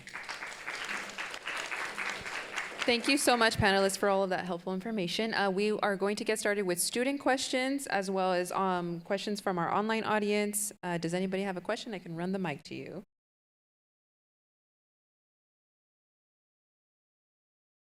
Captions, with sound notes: (audience applauding) - Thank you so much panelists for all of that helpful information. We are going to get started with student questions as well as questions from our online audience. Does anybody have a question? I can run the mic to you.